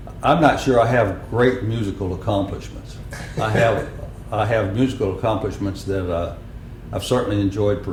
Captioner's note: laughter